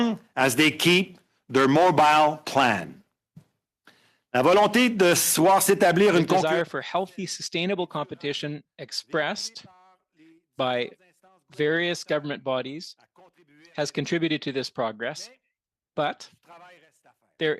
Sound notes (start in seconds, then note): 9.5 speaking French